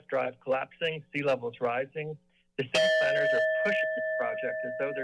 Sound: bell sound

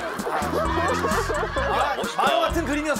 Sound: laughing

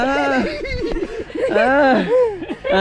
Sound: laughs

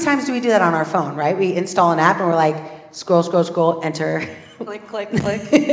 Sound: laugh

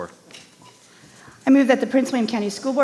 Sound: microphone beeping

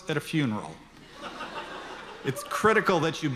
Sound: audience laughter

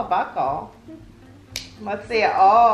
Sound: buckle snaps

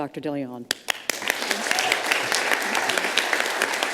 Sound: all applauding

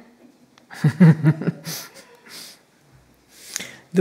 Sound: chuckling

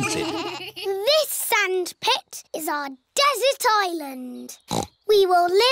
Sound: snorts

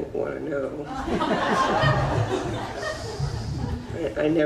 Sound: audience laughs

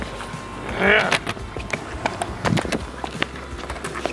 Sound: revving mouth noise

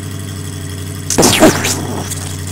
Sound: explosion

